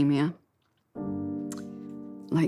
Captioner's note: smacks lips